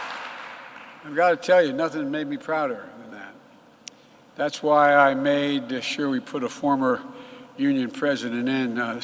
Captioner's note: applause